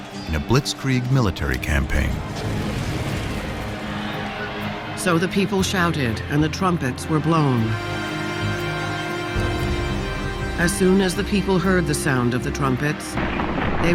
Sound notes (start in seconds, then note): 1.4 crowd clamoring